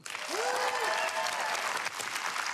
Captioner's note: applause